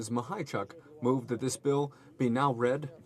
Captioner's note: speaking French